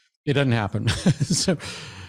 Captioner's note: laughs